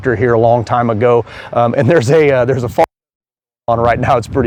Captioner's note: wind drowns out speaker